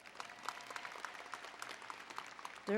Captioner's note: applause